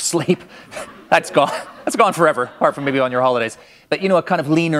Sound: laughter

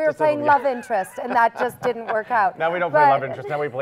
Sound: laughs

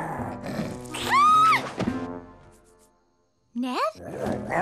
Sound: roaring

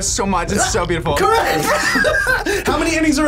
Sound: both laugh

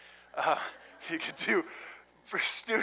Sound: laughter

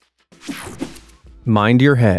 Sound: screen whooshing

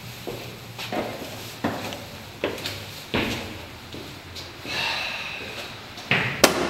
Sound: footsteps; sighs

